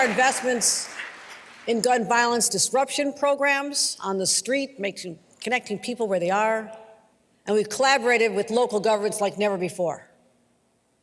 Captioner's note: applause